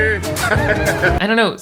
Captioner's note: laughs